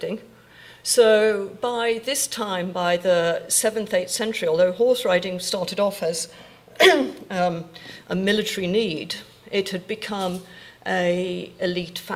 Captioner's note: clears throat